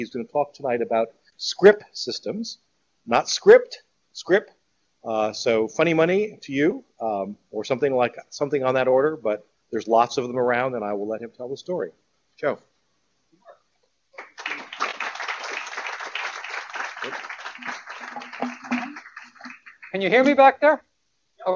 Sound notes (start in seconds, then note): 14.1 applause